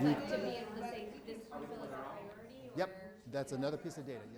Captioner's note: people chattering